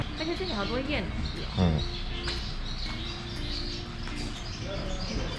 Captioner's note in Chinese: 嘰嘰喳喳